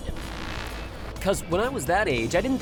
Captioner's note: static